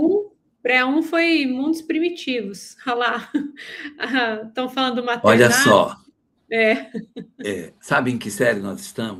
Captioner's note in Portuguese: risadas